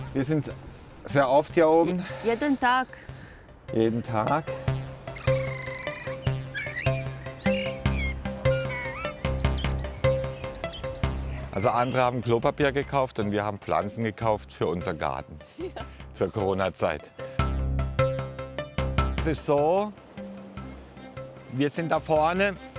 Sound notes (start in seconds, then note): 4.3 dynamic music; 15.6 laughs; 17.4 dynamic music